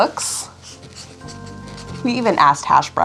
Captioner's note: pen scribbling